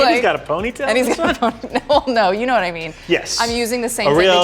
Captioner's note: laughs